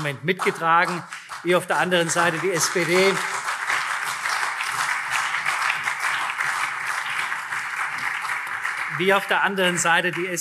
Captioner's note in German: Beifall CDU und SPD